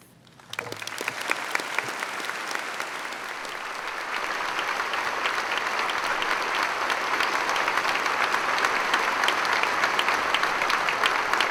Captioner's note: applause